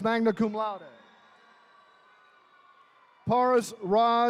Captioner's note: attendees cheering